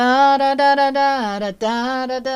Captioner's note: humming